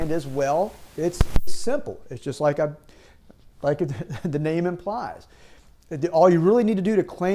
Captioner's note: chuckles